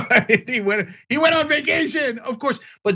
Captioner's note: laugh